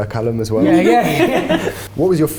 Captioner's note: everyone laughs